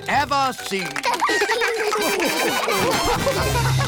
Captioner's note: all laugh